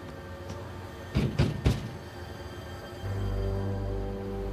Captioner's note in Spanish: Toques en la puerta